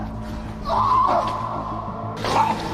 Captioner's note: screams